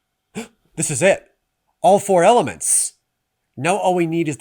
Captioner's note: gasps